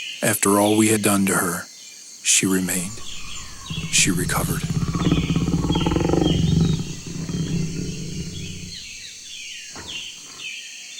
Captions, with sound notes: After all we had done to her, she remained, she recovered. [Low growl]